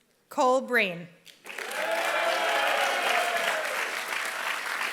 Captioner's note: applause